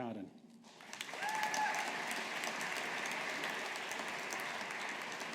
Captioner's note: audience applauding